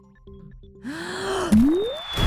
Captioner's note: inhaling